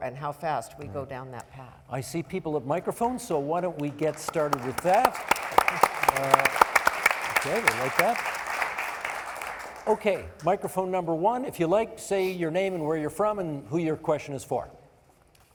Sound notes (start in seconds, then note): 5.5 applauding